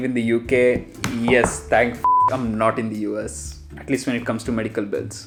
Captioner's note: beep